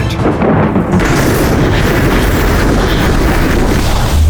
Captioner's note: thunder claps